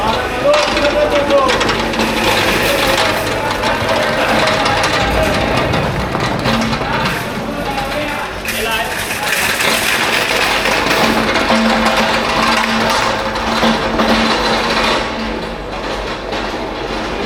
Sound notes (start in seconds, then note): 2.0 crowd chattering; 7.3 crowd applauding